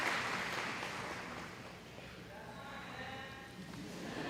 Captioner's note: audience murmuring